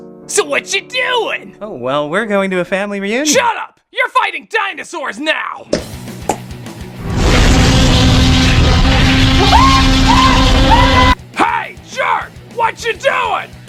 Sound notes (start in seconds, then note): 7.0 dinosaur roaring; 9.3 screaming